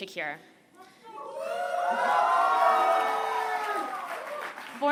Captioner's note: cheering